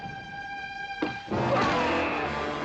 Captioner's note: tense music; whack